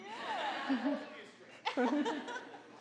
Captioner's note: audience laughing